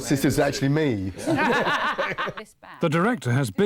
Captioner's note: laughter